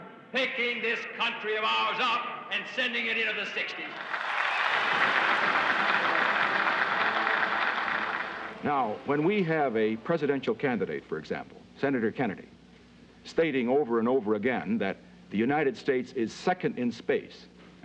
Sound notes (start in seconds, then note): 3.8 cheers and applause